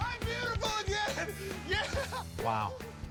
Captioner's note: laughs